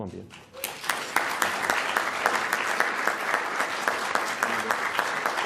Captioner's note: applause